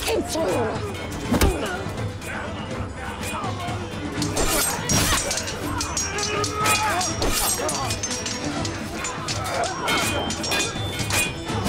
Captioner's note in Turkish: Çarpışma sesleri